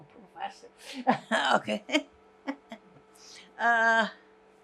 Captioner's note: laughing